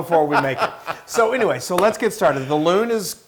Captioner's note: laugh